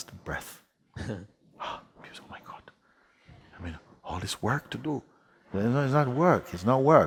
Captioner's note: gasps